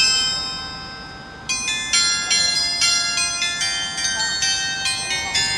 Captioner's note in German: glocke